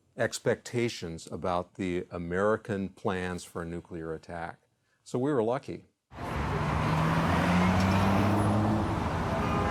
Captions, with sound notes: expectations about the American plans for nuclear attack, so we were lucky. (car roars)